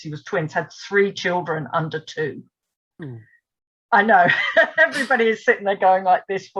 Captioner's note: laughs at reaction